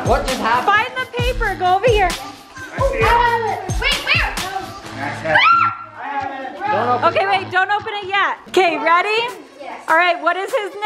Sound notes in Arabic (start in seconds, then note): 5.4 ثرثرة متحمس